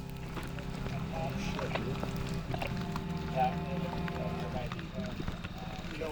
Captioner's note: radio talk chattering